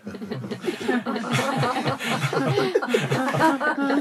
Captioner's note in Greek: γέλια